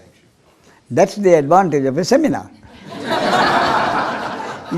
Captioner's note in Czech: smích